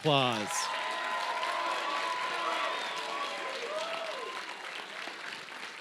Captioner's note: cheers, applause